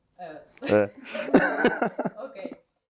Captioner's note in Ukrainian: сміх